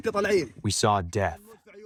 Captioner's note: through translator